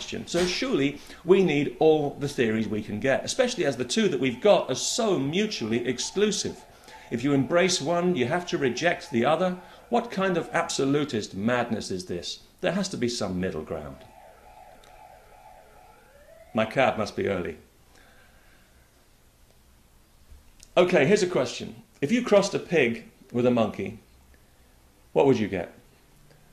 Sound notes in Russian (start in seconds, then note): 13.2 Полицейская сирена